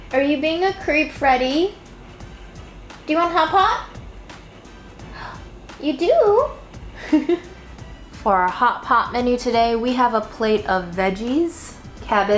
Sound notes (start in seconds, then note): 7.0 laughs